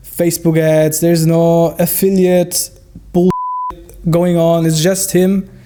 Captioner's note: beep